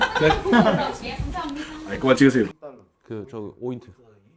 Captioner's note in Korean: 웃음